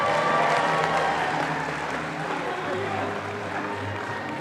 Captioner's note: audience applauding